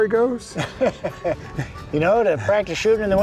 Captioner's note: laughs